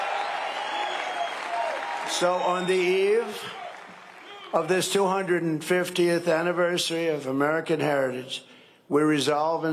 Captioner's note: cheering and applause